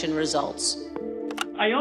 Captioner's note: telephone dialing out, picks up